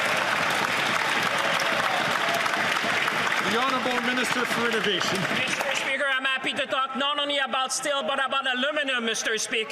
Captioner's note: some Applause